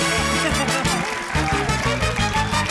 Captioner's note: laughs